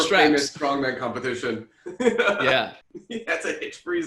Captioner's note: laughter